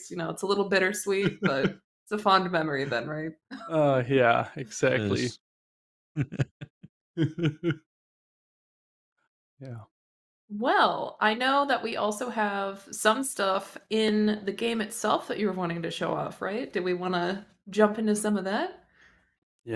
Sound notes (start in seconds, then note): 7.2 laughs